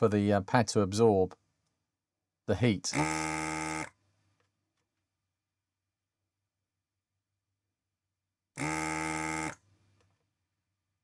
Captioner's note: buzzing